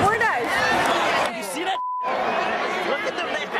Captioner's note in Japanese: ビープ音